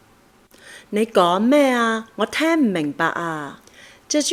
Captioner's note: is speaking in Cantonese